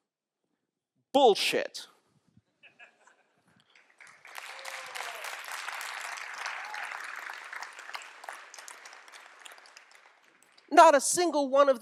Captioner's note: laughter; applause